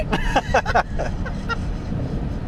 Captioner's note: laughing